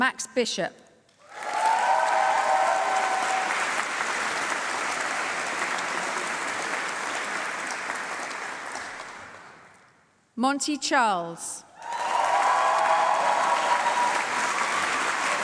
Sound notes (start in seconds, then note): 1.2 applause; 11.8 applause